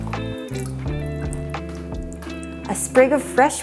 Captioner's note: squeeze sound